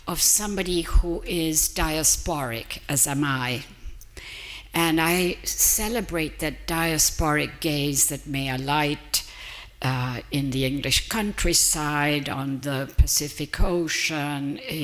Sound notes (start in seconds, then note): none